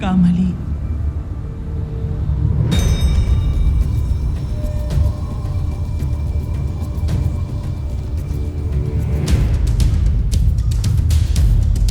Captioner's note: epic music playing; wind howling